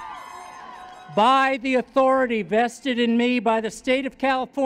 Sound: whooping

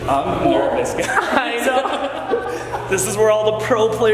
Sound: laughs

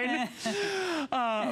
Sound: laughter

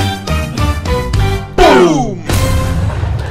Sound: boom!

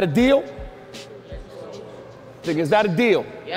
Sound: overlapping chattering

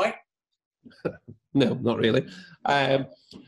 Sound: laughs

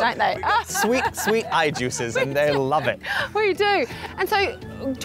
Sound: laughs

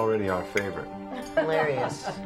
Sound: Dori laughs

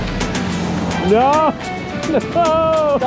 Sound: excitedly screams

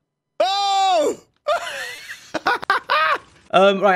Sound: laughs

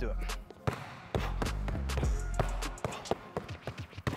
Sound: ball bouncing

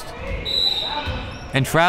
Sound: whistle

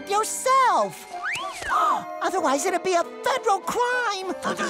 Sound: gasping

